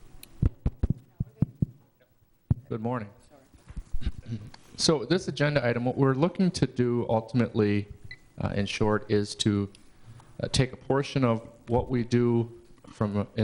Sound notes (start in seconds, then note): 0.6 tapping